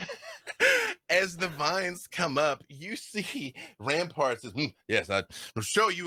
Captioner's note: laughs